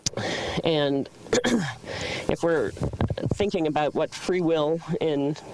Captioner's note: clears throat